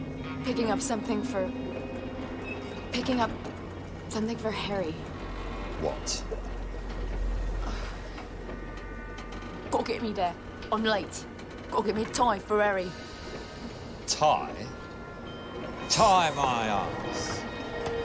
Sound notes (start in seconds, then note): 9.2 imitating %*#